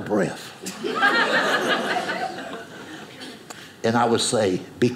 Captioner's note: audience laughing